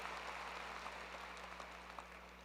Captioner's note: applause